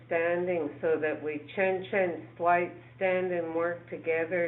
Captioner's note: speaking in foreign language